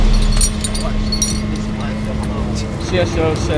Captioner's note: people chattering